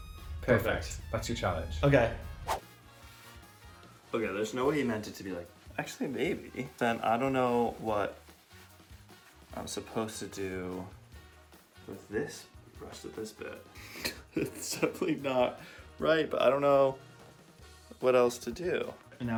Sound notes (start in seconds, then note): 13.9 chuckling